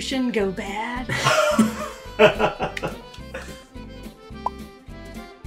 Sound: laughing; palms rubbing; bubble popping

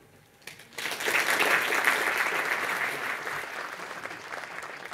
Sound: audience applauds

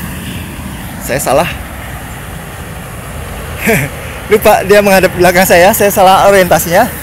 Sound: gigle

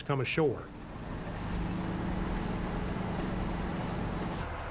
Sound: tanks rumbling

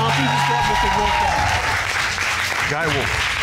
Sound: audience cheers, applauds

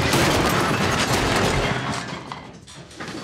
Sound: crash

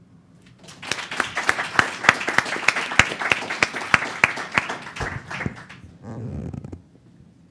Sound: applause

